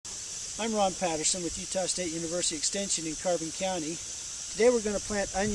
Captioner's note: windy background noise